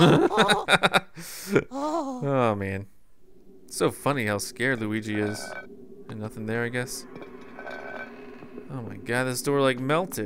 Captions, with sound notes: (laughter) - [Voiceover] Oh, man. It's so funny how scared Luigi is. Nothing there, I guess. Oh my God, this door like melted.